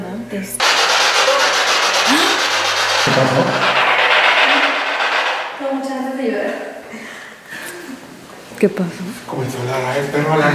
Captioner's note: applause